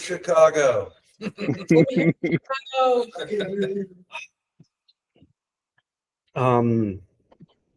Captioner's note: colleague exclaiming; colleagues laughing